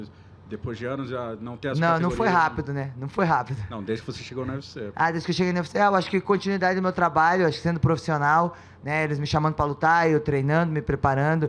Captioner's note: speaking foreign language